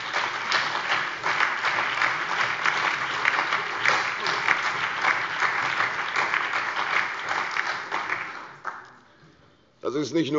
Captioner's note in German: Allgemeiner Beifall